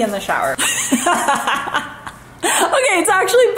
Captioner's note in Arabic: يضحك